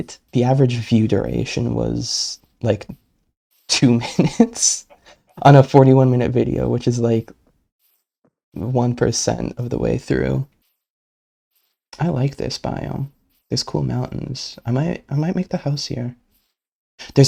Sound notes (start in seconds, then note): 3.8 laughing